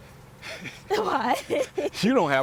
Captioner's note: laughs